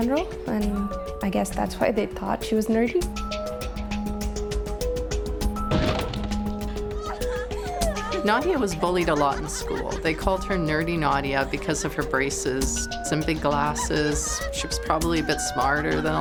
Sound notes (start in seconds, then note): 5.5 banging; 6.5 people laughing